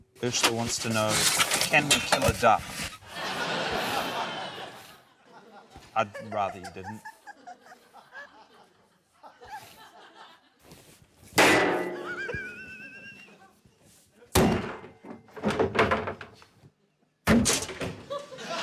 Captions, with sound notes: - Urzila wants to know, 'Can we kill a duck?' (LAUGHTER) I'd rather you didn't. (BANG!) (THUMP!) (THUNK!)